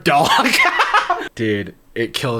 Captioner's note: laughing